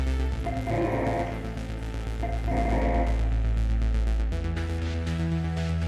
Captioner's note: distorted electronic tones ring; tense synth music continues